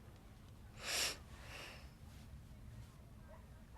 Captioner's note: sniffles